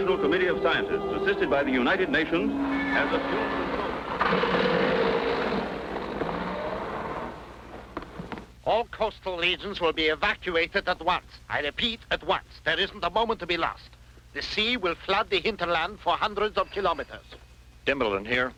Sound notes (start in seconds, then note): 4.4 jeep engine running